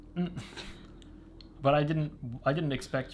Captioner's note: both laughing